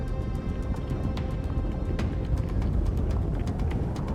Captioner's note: ground rumbling; wind blowing